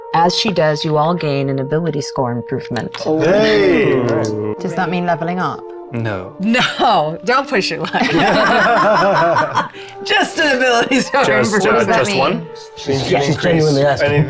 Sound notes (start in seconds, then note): 7.9 players laughing